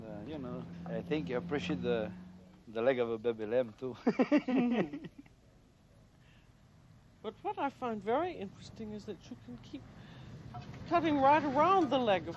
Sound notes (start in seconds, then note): 4.0 laughter